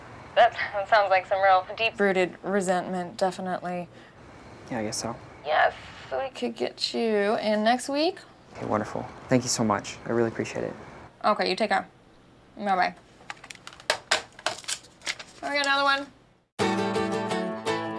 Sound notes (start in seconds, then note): 13.3 hangs up phone